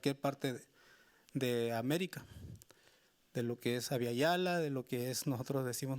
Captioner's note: speaking Spanish continues